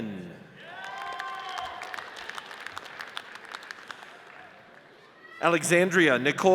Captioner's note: audience cheers and applauds